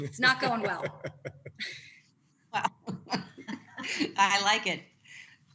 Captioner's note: laughter